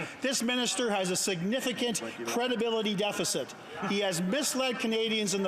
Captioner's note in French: voix de l'interprète